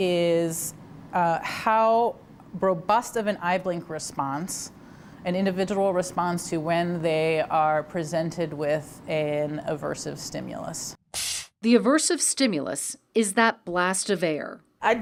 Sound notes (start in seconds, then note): 11.2 air hisses